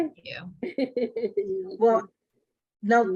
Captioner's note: laughing